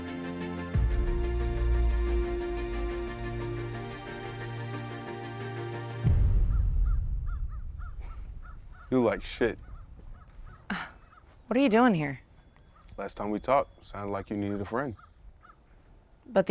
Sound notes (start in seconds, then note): 6.9 birds chirping